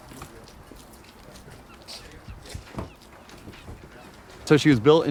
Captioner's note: crew chattering; birds squawking